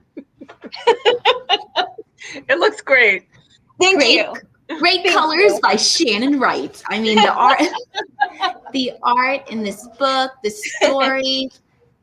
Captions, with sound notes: (laughing) - It looks great. - Thank you. - Great colors by Shannon Wright? I mean the art in this book, this story, so wonderful.